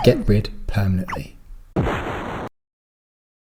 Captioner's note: directory implodes